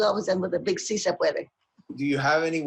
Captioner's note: speaking spanish